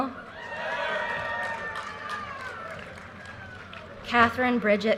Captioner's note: audience cheers and applause